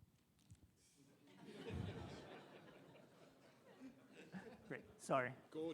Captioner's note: attendees laughing